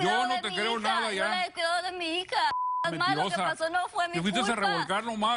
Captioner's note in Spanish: Bip